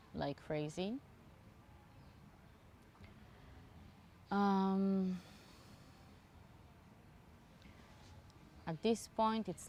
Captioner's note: pauses 8 seconds